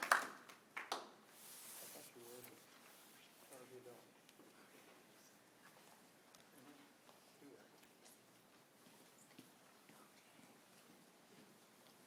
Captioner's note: applause